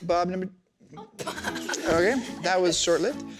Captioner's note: children giggling